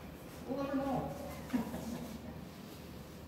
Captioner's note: chuckle